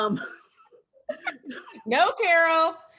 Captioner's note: laughs